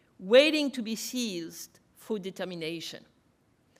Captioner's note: none